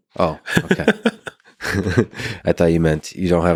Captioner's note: both chuckling